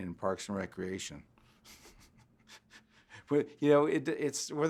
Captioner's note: laughs